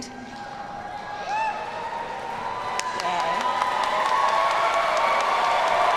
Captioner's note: audience cheers and applauds